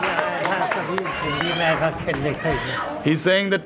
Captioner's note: non-english speech